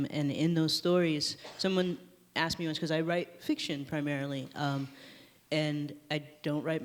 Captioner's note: none